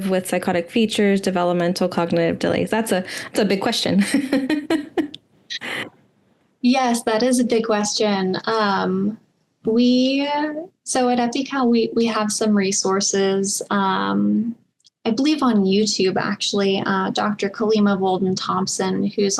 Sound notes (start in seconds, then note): 4.0 laughs